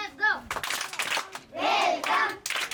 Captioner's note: claps